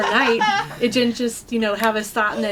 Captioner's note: laughter